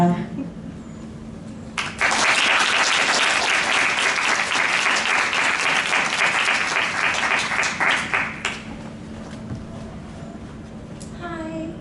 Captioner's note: applause